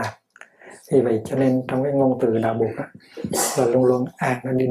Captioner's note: Vietnamese